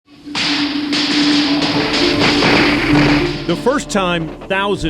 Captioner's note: gunshots